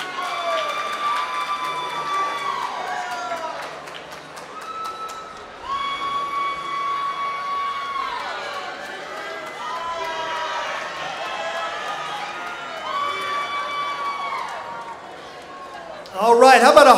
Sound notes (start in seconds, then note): 4.6 applause